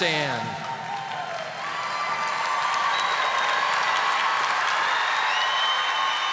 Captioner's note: audience applauding